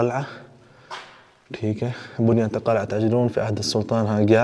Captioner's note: Arabic; Arabic